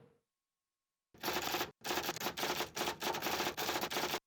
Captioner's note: typewriter keys clacking